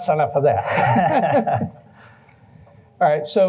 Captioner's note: laughter